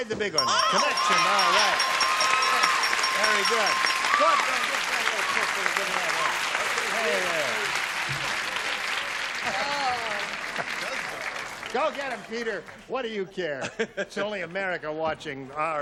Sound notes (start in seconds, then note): 0.3 ding; 5.6 applause